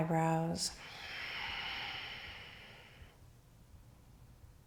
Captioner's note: deep breathing